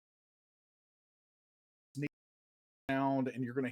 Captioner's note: audio cut out